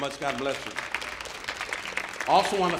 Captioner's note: audience applauding